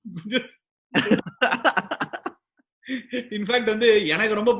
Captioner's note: laughs